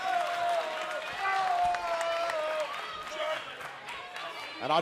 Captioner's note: crowd cheering